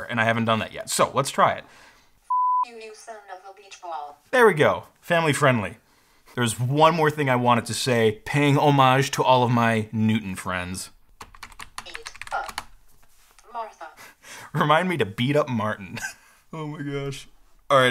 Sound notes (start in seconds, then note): 2.3 beep; 11.1 keyboard clicks; 15.9 chuckles